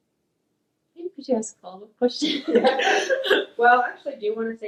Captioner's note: laughs